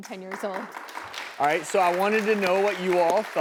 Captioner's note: audience applauding